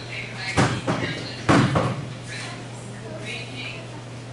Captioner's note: background chatter